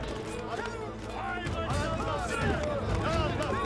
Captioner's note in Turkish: Bağrışma sesleri